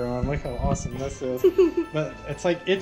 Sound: laughter

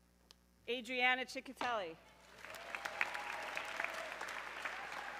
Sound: audience cheering

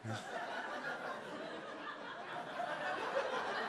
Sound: audience laughs

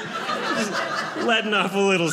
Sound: audience laughing

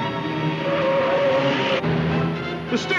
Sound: tires screeching

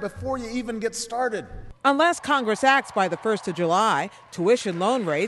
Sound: cheering and applause

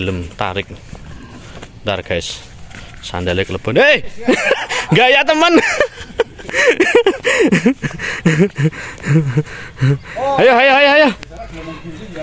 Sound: laughs

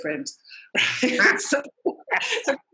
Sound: laughter

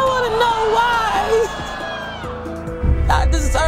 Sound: crying

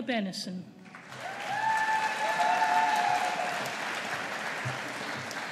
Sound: audience applauding

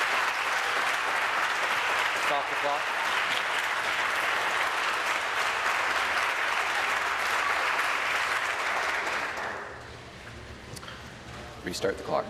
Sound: applause

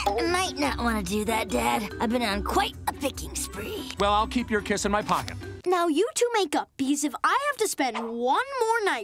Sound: none

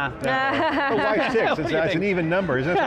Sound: laughing

